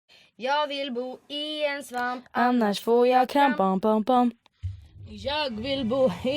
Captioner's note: bam